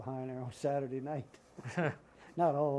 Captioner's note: laughter